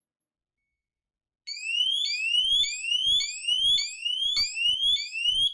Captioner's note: alarm